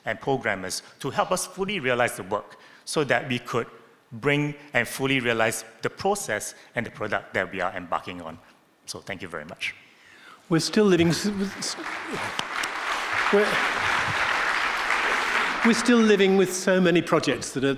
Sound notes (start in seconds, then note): 11.0 audience clapping